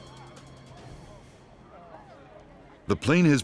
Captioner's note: alarmed voices exclaiming; voiceover